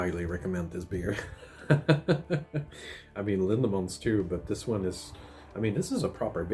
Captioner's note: laughs